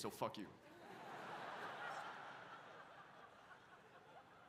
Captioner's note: audience laughs